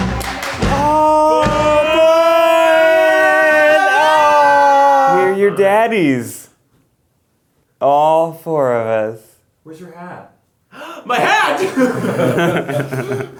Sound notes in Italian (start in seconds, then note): 10.7 sussulto; 11.2 risate